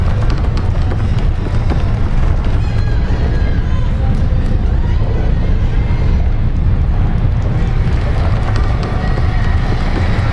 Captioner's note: earth trembling